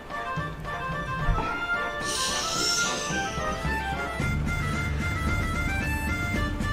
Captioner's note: long breath